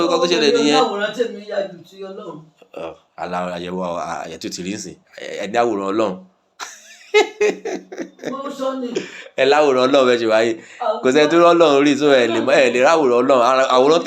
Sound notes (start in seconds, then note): 2.6 talking; 6.6 laughing